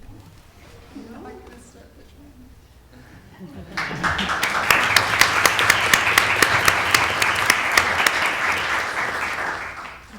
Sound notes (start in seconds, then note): 7.3 applause